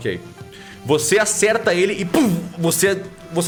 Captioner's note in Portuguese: poow